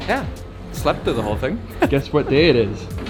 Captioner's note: laughs